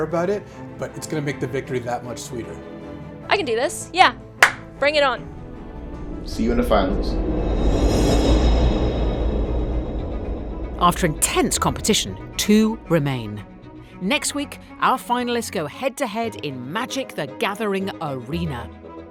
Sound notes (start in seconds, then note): 4.4 claps; 6.9 dramatic music